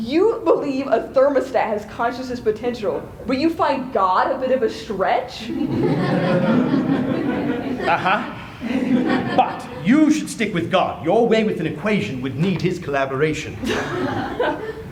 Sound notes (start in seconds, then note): 5.5 laughter